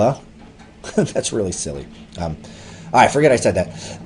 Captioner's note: laughs